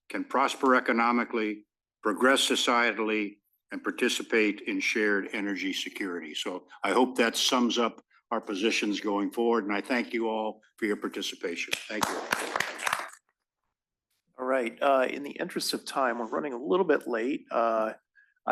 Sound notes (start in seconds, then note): 11.6 applause